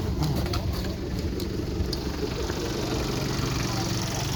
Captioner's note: engine idling